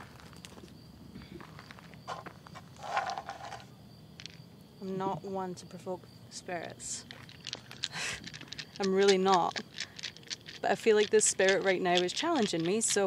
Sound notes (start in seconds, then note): 2.8 dice rattling